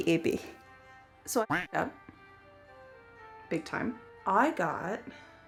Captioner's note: duck quack